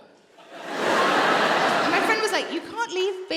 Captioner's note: audience laughing